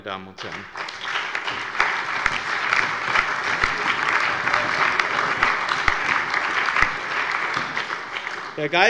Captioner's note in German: Allgemeiner Beifall